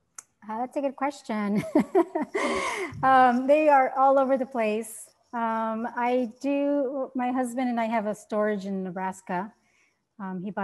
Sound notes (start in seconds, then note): 1.5 laughter